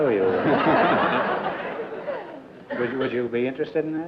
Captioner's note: laughter